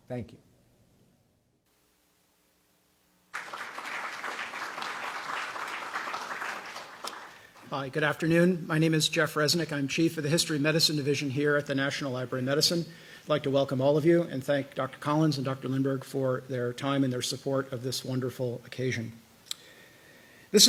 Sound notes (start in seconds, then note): 3.3 applause